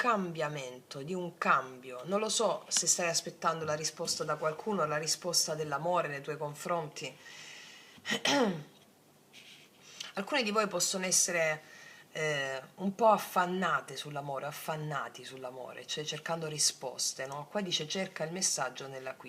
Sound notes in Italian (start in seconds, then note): 8.1 schiarire la voce